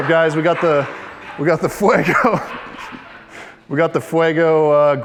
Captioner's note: laughs